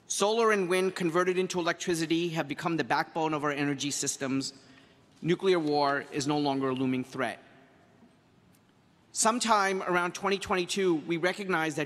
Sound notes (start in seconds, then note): none